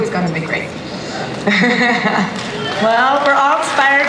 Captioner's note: audience applause